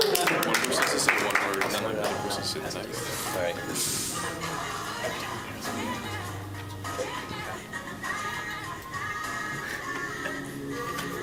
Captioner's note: applause